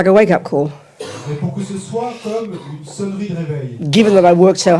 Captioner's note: French